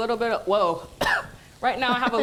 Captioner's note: coughs